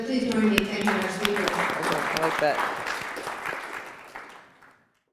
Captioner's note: applause